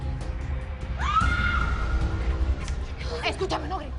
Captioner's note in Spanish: Gritos